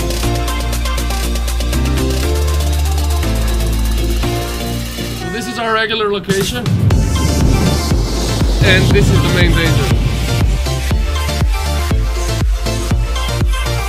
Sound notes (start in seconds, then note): 7.2 train sounds; 10.3 upbeat music playing